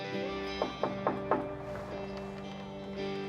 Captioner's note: knocking on door